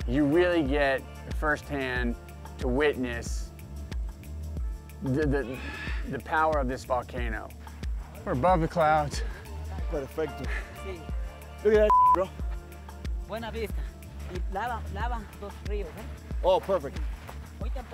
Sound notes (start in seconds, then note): 11.8 beep; 13.9 speaks foreign language